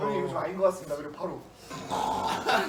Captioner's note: snore